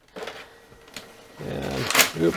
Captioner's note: scanner running